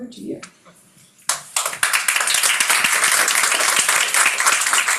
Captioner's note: crowd members clapping